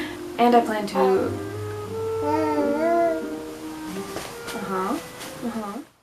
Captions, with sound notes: and I plan to - *excessively cute baby noises* uh huh, uh huh...